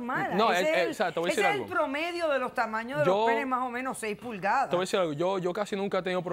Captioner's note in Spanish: Hablan al unísono